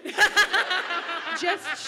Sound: audience laughs

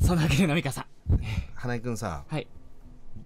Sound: sighs

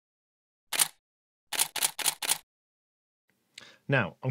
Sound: typing

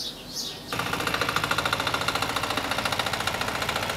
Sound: engine rattling

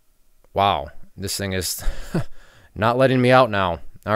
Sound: chuckles

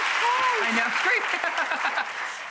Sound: laughs

